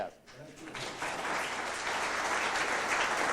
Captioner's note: applause